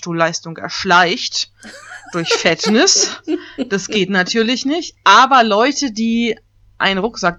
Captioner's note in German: ironie